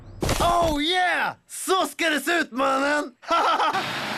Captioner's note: laughs